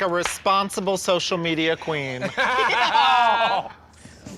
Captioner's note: laughing